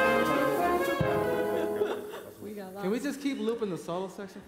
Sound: laughs

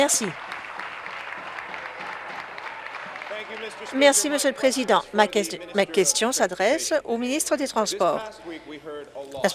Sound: applause

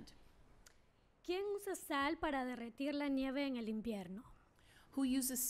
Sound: speaking spanish

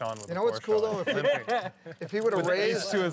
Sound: laughter

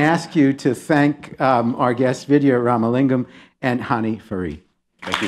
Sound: applause

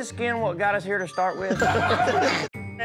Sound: everyone laughing

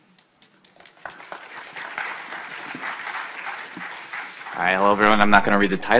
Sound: audience applauding

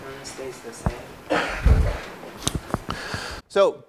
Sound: cough

